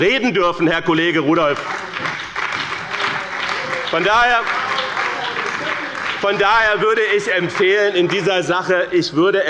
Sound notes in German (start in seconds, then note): 1.1 Beifall bei dem BÜNDNIS 90/DIE GRÜNEN und der CDU